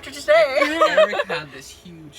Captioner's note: laughter